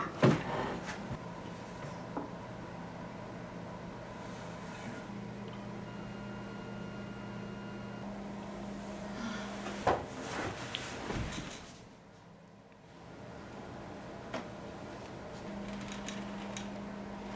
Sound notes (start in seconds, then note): 9.9 head thuds